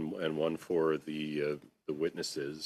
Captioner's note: speaking french